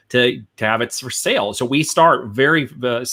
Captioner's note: none